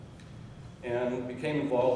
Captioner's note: none